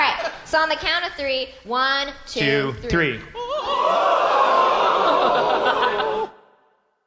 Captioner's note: audience laughs; audience makes ghost sounds